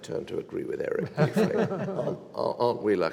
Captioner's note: all laughing